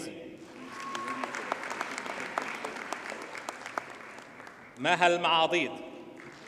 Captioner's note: audience cheers and applauds